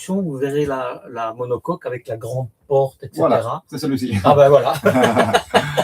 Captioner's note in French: rires